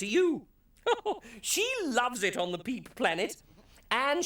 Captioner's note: chuckles